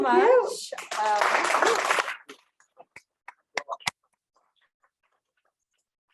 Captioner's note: audience applauding loudly